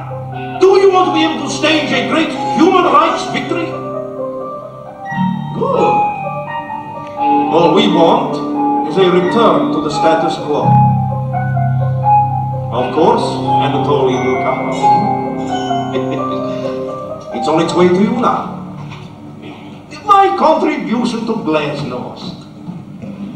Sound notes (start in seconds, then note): 15.4 laughs